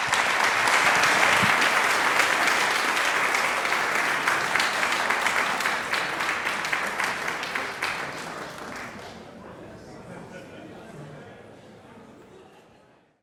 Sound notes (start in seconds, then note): 0.0 audience applauding; 10.3 people chattering